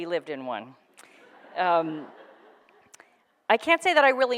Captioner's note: audience laughs